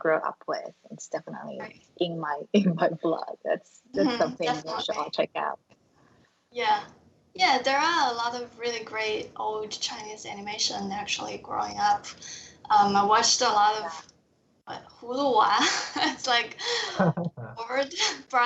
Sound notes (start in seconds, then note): 15.6 laughs